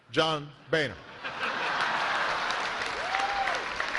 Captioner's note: laughter; cheers and applause